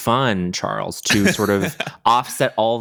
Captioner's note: charles laughs